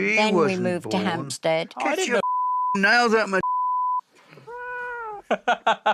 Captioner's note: meows; Jack laughs